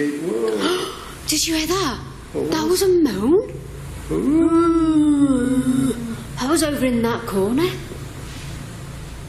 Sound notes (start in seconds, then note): 0.4 gasping; 4.0 both moaning